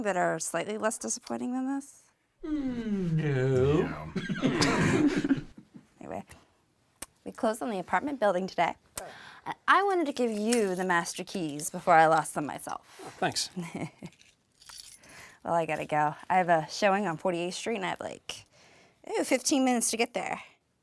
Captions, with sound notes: that are slightly less disappointing than this? - No. - No. (all laugh) - Anyway, we closed on the apartment building today. I wanted to give you the master keys before I lost them myself. - Oh, thanks. - Well, I gotta go. I have a showing on 48th Street at, like, oh, 15 minutes to get there.